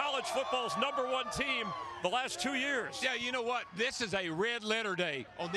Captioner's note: applause